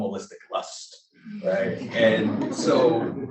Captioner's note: laughter